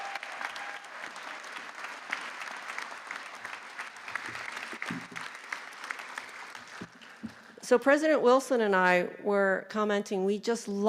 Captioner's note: applause